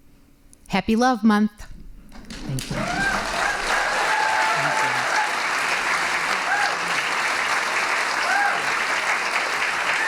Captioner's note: applause